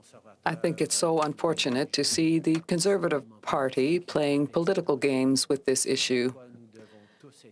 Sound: speaking french

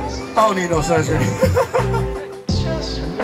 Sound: laughing

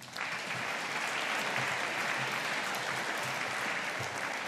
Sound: audience applauding

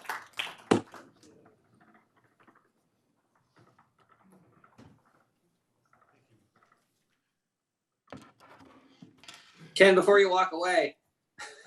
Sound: applause

